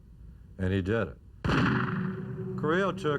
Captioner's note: gunshot